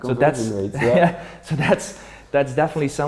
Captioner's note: laughs